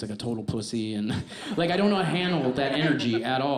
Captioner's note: audience laughs